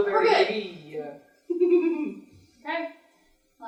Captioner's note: laughter